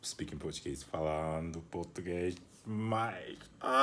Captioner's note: speaking Portuguese